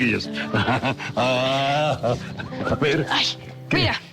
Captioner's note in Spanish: Risas